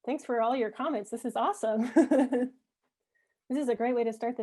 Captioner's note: laughs